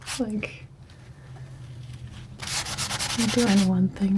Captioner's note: scratching